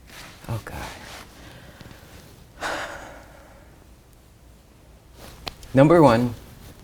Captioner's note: sighs